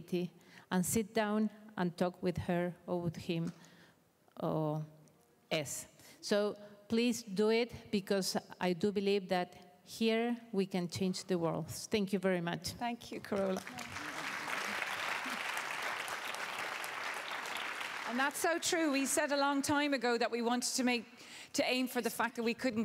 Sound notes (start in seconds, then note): 14.7 applause